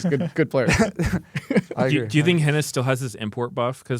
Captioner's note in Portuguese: risos